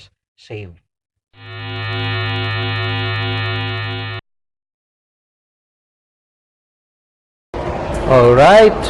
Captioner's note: sound effect